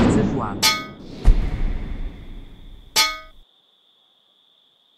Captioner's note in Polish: intensywne rykoszetowanie